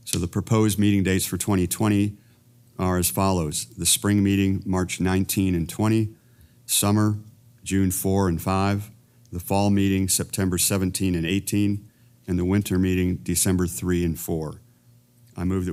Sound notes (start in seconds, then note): none